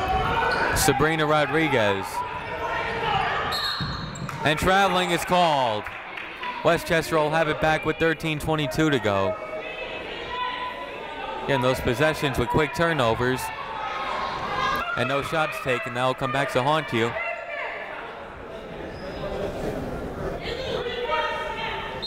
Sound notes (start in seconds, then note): 3.5 whistle tweeting; 9.7 people shouting in the crowd; 18.4 people shouting in the crowd